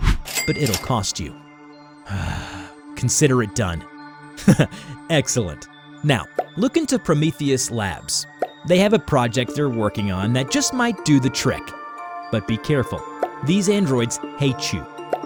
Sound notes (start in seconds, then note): 2.0 sigh; 4.4 chuckles